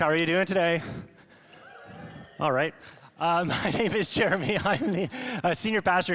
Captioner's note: congregation cheers